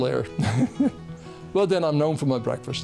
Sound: laughing

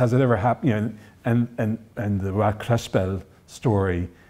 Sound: foreign language

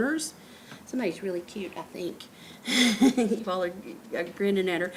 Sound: laughs

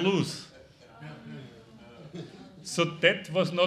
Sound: audience murmuring in agreement

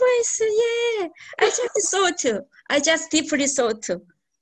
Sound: laughs

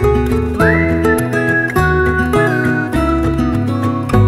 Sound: whistling

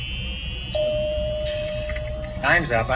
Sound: ding

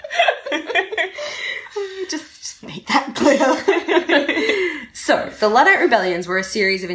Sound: giggling

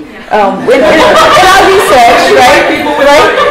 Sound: laughter

